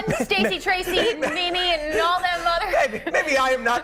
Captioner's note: laughter